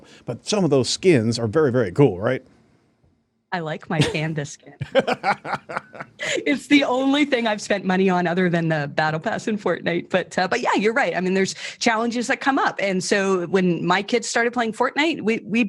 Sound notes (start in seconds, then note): 4.8 laughing